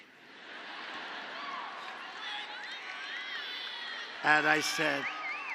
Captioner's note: laughter